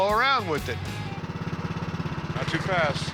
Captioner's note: engine humming